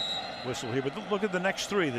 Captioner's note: whistle